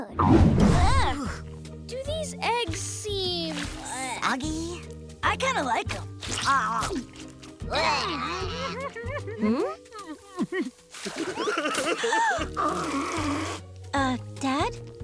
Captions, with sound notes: Uck. Do these eggs seem, ugh? Soggy? I kinda like 'em. Ugh. Hmm? [crying] [gasping] [blowing nose] Uh, Dad?